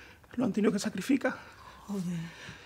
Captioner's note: none